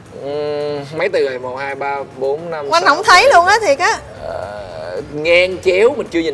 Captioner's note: counting